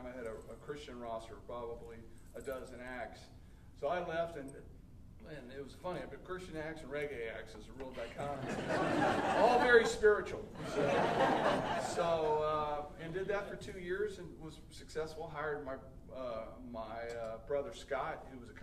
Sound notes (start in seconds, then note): 8.0 audience laughing